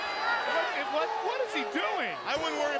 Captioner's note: crowd chatter